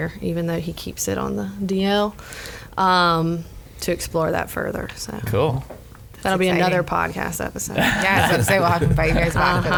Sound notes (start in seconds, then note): 7.7 laughs